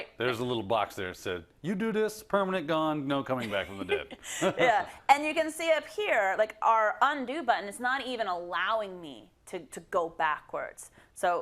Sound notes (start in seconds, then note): 3.5 laugh